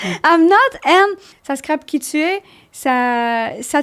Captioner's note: in french